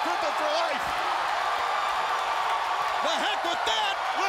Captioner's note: crowd cheering